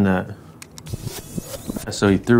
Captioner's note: tape rewinding